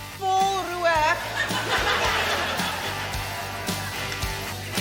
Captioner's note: laughter